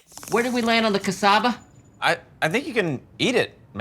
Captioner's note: cricket